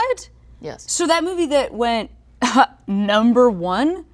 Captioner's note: ahem